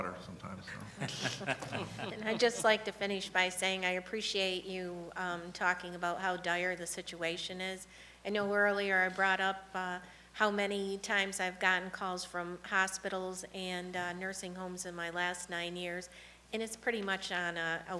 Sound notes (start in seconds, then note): 3.3 laughter